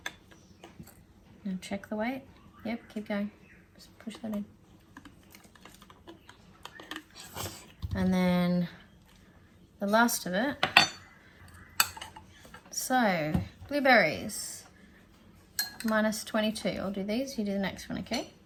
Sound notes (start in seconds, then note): none